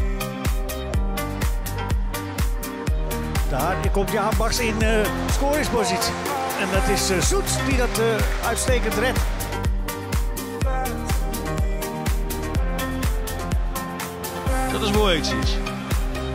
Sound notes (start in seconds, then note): 3.3 dutch commentary; 14.9 dutch commentary